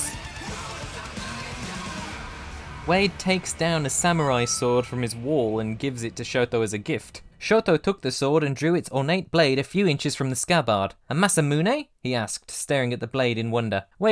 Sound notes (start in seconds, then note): 0.0 heavy metal playing; 3.8 ding!